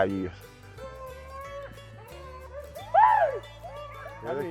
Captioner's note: dogs howling